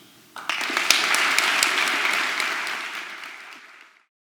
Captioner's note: applause